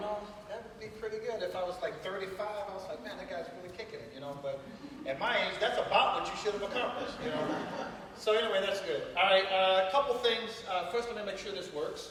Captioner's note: laughter